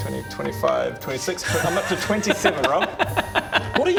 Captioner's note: co-conspirator cackle